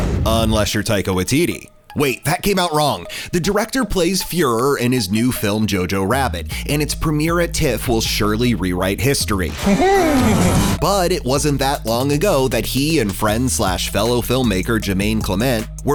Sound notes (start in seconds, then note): 9.2 quirky music; 9.5 laughs